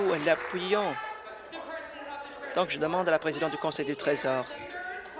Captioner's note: applause